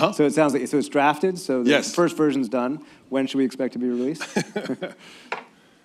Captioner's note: laughter